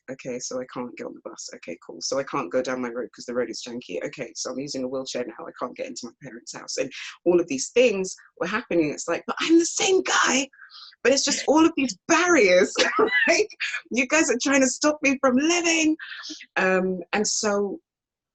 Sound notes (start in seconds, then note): 12.7 laughs